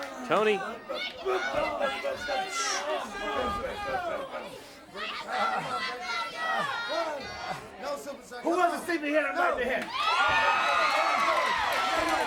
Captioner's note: crowd chatter